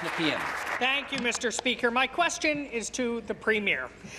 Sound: applause

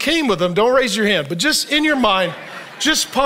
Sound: audience laughs

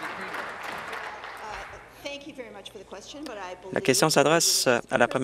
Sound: applause

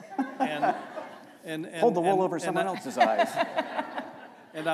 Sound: laughter

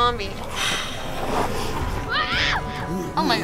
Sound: zombies hissing and snarling

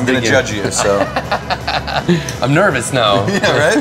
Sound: laughs

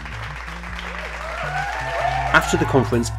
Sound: applause

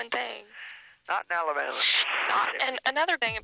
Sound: man over phone

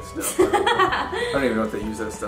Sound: laughing

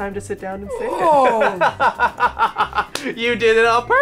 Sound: laughs

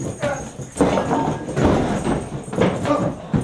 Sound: men grunt

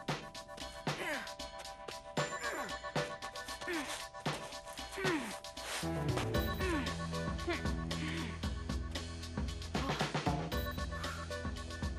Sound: grunting

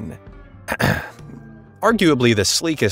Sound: narrator coughs

